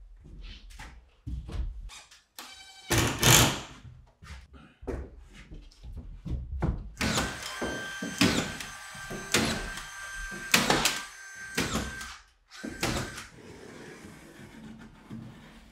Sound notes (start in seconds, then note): 2.5 drill buzzing; 7.0 nail gun banging